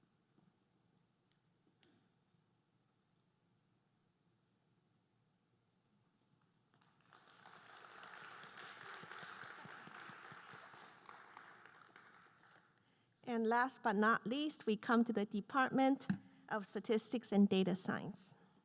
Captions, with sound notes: (audience applauding) And last but not least, we come to the Department of Statistics and Data Science.